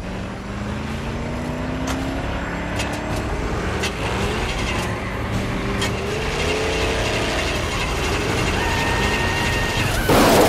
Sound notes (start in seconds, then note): 3.9 car Ignition Grinding